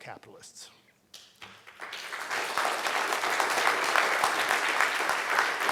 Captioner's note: audience applauding